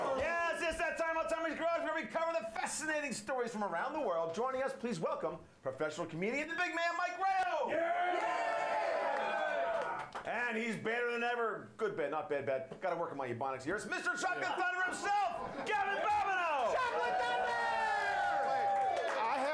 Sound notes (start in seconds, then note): 7.4 audience cheering; 18.1 audience cheering